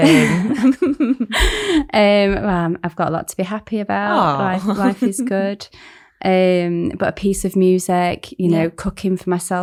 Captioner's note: laughs